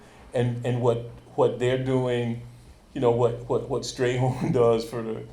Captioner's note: chuckles